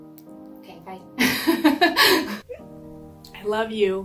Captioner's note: laughing